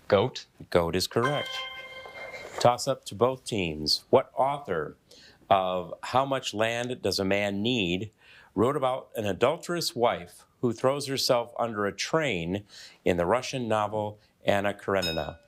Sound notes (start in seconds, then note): 1.2 bell dinging; 15.0 bell dinging